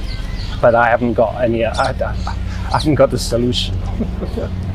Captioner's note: laughing